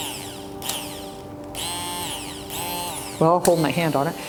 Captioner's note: mixer whirring